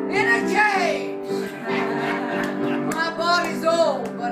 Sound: audience laughs

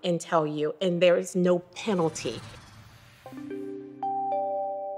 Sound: bright electronic tones

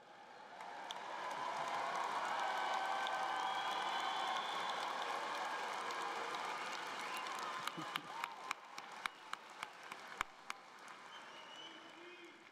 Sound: cheering and Applause

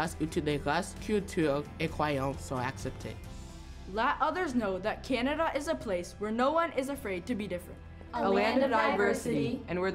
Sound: speaking French

